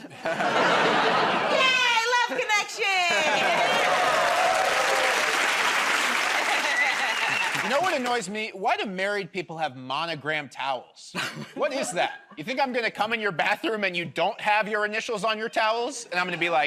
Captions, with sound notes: -I'll see you in the airport bathroom. -Yay! Love connection! [ Cheers and applause ] -You know what annoys me? Why do married people have monogrammed towels? What is that? You think I'm going to come in your bathroom and you don't have your initials on your towels